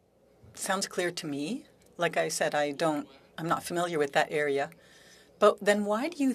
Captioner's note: speaking French